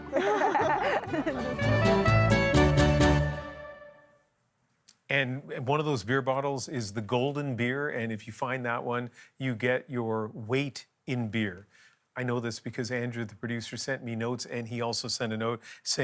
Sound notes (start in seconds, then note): 1.7 laughter